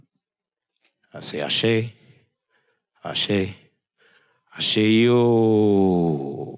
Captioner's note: speaking in foreign language